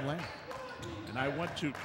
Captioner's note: yelling; clapping